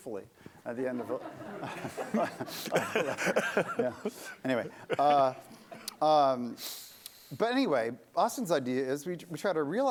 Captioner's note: laughter